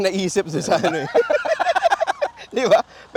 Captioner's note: both laughing